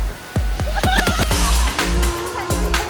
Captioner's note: laughing